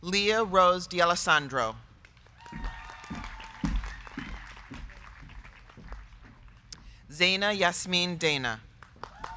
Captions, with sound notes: Lia Rose D'Alessandro. (crowd cheering) (crowd clapping) Zaina Yasmin Dana.